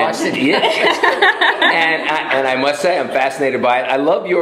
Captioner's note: laughter